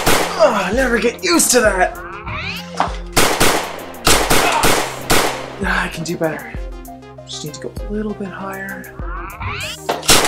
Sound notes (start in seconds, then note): 2.7 bang! bang!; 2.8 bang! bang! bang! bang!; 10.0 bang! bang!